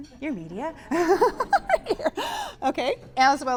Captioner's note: giggling